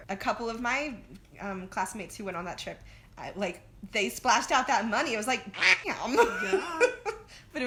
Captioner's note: quack